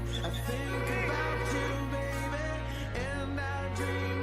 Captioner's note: telepon berdering